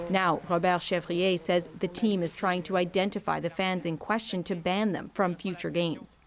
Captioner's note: speaking French